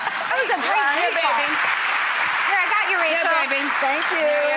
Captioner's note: applause; overlapping chatter